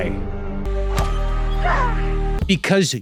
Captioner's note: blow lands; shouts